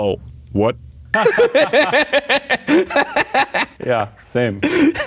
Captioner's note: both laughing